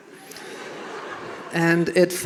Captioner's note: audience laughing